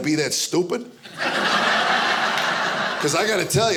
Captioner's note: audience laughing